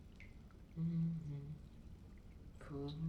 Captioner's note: humming